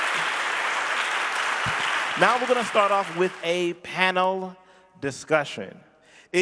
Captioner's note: audience clapping